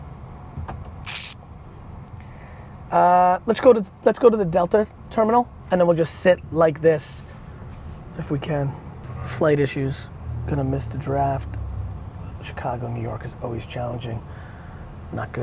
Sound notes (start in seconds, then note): none